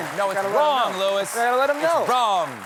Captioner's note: applause